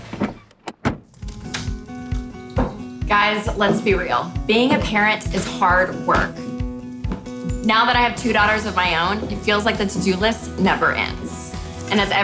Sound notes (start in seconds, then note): 0.0 engine revving; 0.6 car door slams; 2.2 alarm beeps